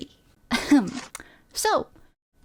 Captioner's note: cocky ahem